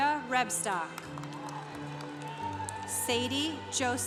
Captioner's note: congregation cheering